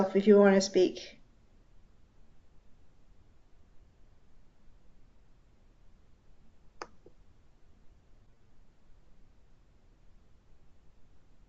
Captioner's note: silence